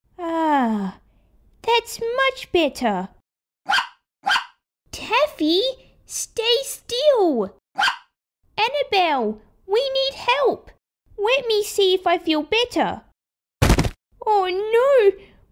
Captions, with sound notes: Ah... That's much better (Barking!) Taffy, stay still Bark! Annabelle, we need help Let me see if I feel better... (Thud!) Oh no!